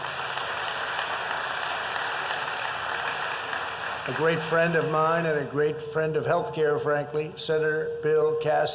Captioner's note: applause